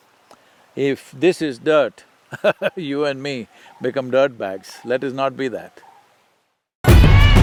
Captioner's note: laughs